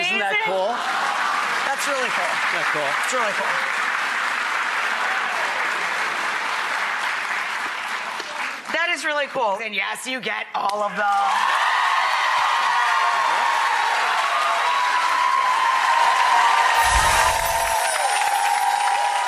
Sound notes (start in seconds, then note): 1.1 applause; 11.0 cheers, applause; 16.8 twinkle